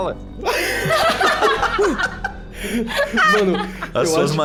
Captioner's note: everyone laughs